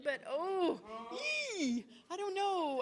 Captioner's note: interpreter groans